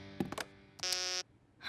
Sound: beeping

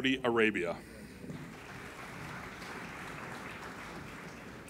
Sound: applauding

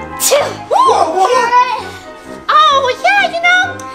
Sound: assistant sneezes; Witch exclaims

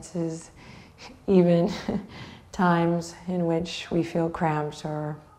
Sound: chuckles

